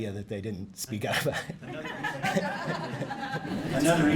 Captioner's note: laughing